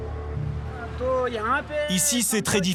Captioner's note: foreign language spoken